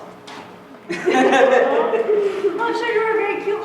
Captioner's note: both laugh